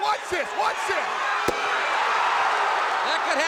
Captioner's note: crowd cheering